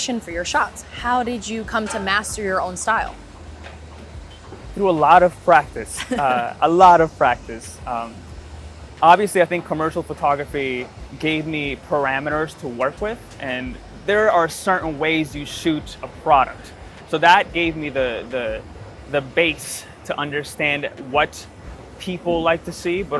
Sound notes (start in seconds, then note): 5.9 chuckles